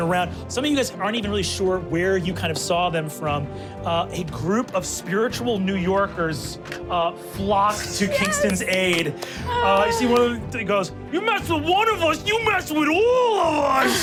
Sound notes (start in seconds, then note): 7.9 clapping